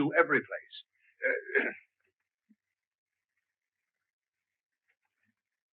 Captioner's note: Merrydew coughs